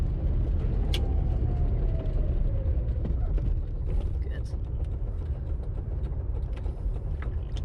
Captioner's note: car dies